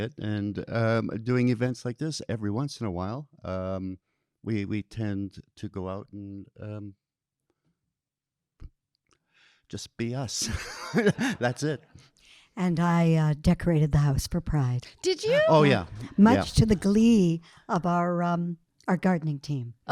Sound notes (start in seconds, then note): 10.3 Colin laughing